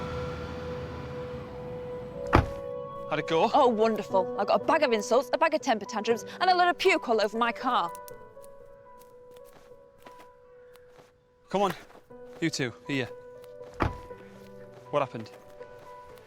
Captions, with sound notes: (door clicking) - How'd it go? - Oh wonderful! I got a bag of insults, a bag of temper tantrums, and a load of puke all over my car! (gentle orchestral music) - Come on, you two, here. what happened?